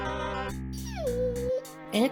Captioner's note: Apricot whimpers